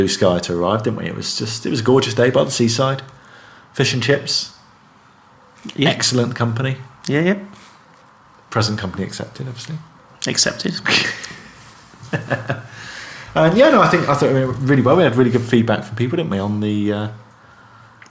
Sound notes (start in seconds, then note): 10.8 laughs